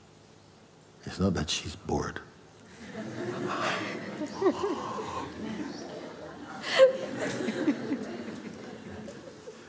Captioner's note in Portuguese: risos